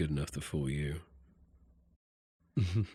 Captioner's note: chuckles